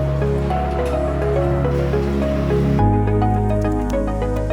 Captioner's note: machinery clanging; keyboard tapping